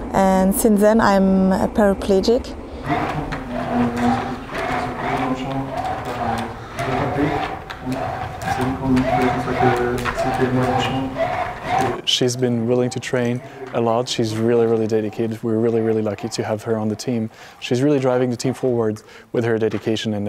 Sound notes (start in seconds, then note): 3.0 machine whirring; 5.5 murmuring